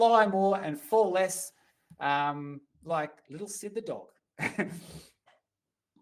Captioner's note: chuckles